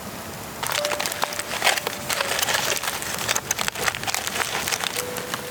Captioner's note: crinkling sound of foil